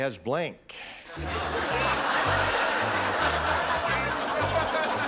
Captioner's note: laughter; theme music